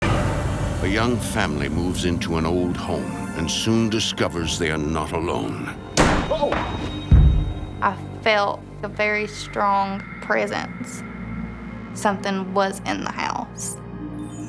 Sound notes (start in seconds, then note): 0.0 ominous music; 5.9 door slamming